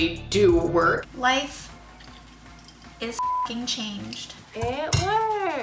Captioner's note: beep